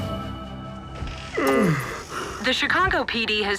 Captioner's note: yawn